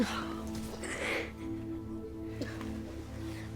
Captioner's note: sobs; exhales